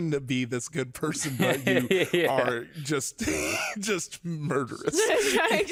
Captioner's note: laughs